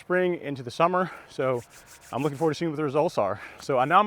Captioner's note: rubbing hands